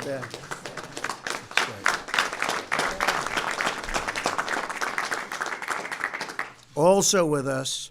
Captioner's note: applause